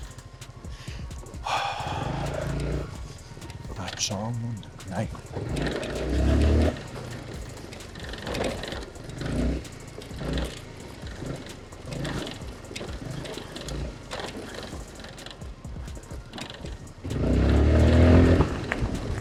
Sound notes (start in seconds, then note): 1.2 sigh / Groan sound